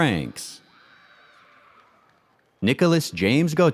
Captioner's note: audience cheers and applauds